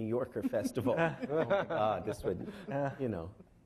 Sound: laughing

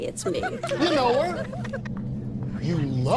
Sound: friends laughing

